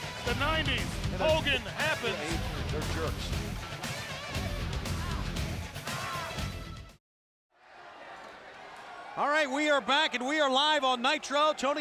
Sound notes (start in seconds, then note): 0.0 upbeat music; 4.1 upbeat music continues; 7.7 crowd chattering